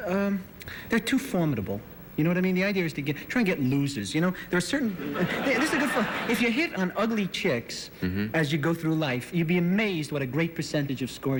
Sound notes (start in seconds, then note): 3.0 laughter